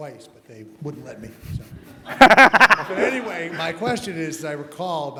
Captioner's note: laugh